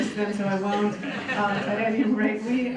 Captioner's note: laughter